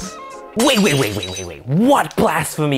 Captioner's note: glass smashing